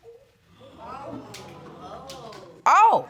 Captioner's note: audience gasps